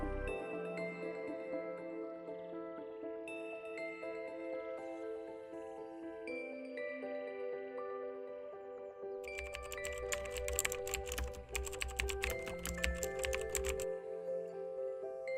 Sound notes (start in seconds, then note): 9.2 keyboard clicks